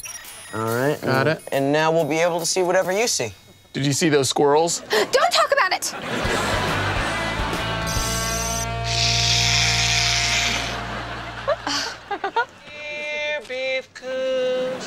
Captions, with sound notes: - All right. - Got it. And now we'll be able to see whatever you see. Did you see those squirrels? Don't talk about it. [chuckles] Here, beav-coons.